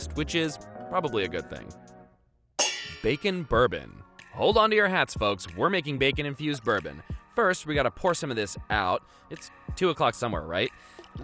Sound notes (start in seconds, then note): 2.6 pans clanging